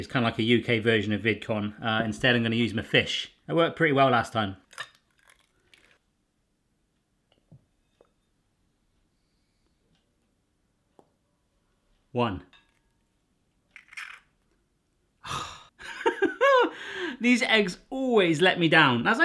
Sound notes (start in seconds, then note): 15.2 sighs; 16.0 laughs